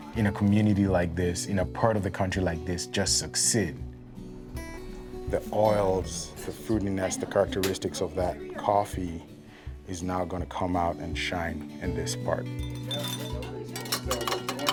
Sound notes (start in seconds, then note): 12.6 utensils cluttering; 12.7 people chattering